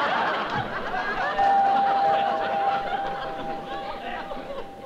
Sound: doorbell rings

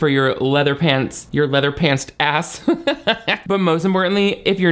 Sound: laughs

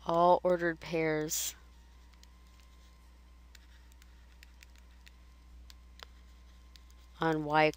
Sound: silence

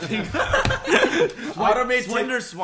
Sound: laughs

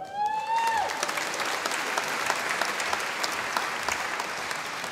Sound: audience applauding

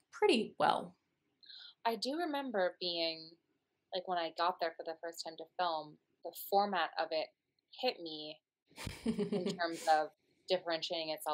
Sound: laughter

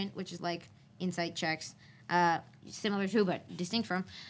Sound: none

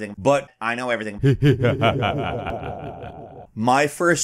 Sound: evil laughter

